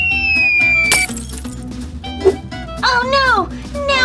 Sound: glass breaking

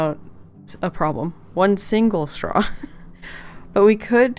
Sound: laughs

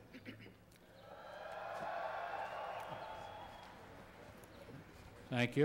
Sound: cheers

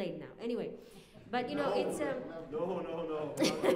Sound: laughter

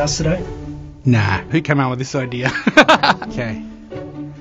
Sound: laughter

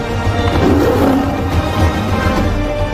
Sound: mufasa roars

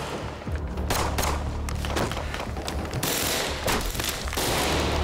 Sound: thudding

